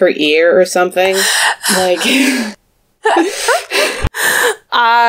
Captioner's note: laughs